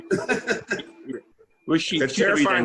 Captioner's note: laughing